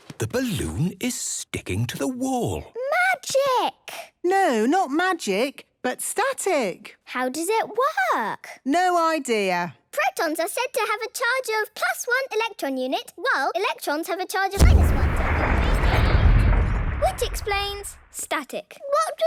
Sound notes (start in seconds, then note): 14.6 distant explosion